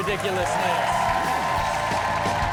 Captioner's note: all cheer